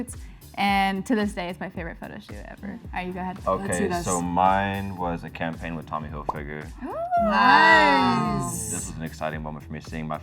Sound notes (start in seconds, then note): 6.9 all ooh in excitement